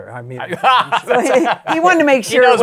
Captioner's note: laughs